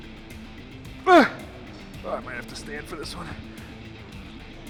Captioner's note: grunts